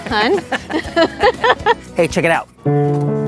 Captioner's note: both laughing; solemn piano music